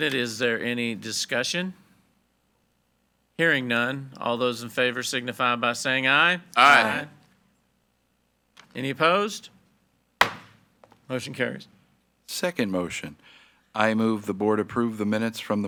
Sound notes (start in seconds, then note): 10.2 gavel thuds